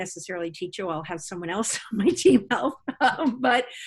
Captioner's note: laughs